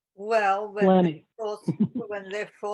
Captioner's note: laughs